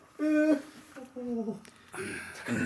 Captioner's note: A quavery voice